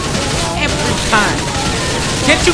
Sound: loud gunfire

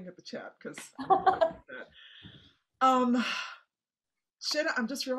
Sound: laughing

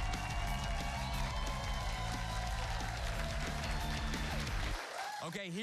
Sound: cheers and applause

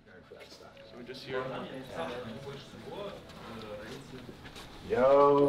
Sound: players chattering

